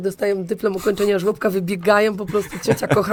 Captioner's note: śmiech